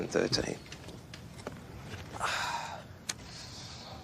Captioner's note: sighs